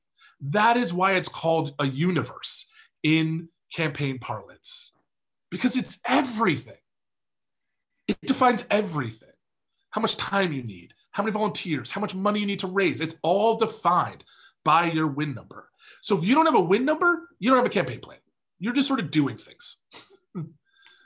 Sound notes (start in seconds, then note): 20.0 chuckles